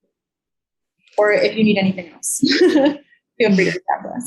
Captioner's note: chuckling